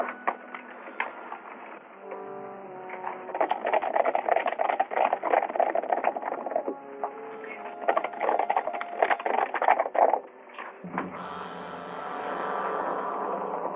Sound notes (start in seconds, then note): 0.2 disquieting music; 2.7 horses galloping; 11.8 disquieting music